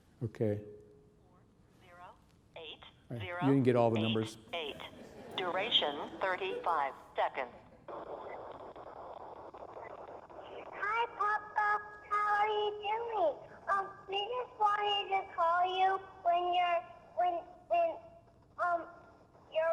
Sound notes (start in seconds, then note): 4.7 audience laughing; 10.3 phone message